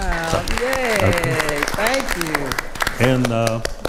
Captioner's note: attendees applauding